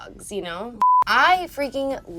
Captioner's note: beep